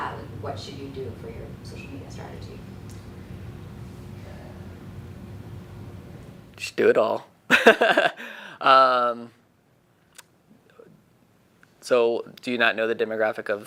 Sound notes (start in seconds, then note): 7.5 laughing